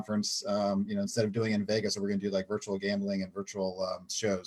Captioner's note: clearing throat